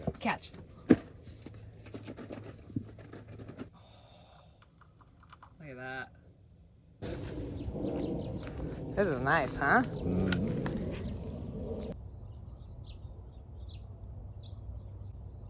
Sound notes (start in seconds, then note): 12.2 bird chirping